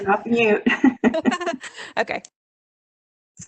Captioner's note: laughing